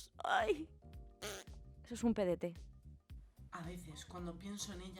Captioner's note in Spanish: Sonido de pedo